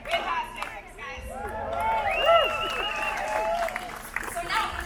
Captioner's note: audience cheers